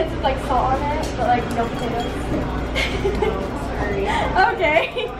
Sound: laughing

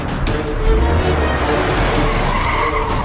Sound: car Screeching

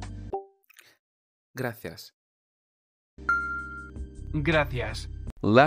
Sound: in Spanish

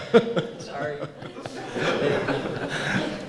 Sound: laughter

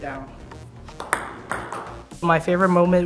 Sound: ping-pong ball bouncing

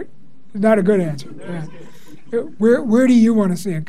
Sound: class laughs

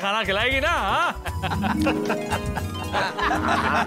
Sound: laughing

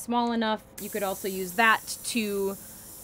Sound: air hissing

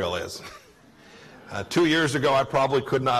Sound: laughter

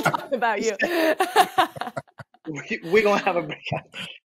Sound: laughing

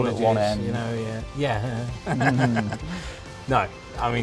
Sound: laughs

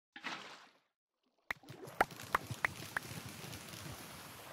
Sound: splash

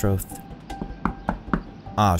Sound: knocking

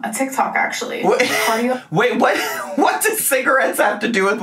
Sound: laughing

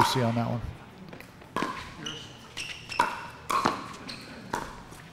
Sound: ball bouncing

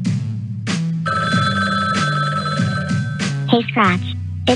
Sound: phone rings

